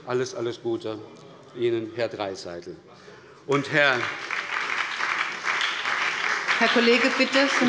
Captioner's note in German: Beifall bei der SPD und dem BÜNDNIS 90/DIE GRÜNEN